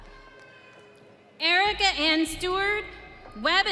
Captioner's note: audience cheering